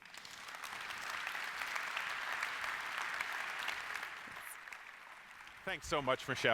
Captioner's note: applause